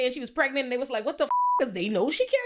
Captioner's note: beep